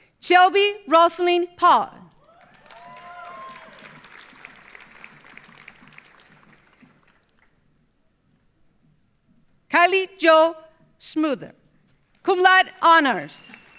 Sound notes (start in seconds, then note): 2.2 audience cheering; 2.2 audience applauding